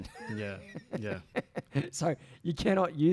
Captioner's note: laughs